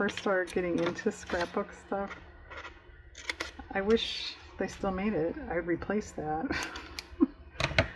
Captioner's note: laughs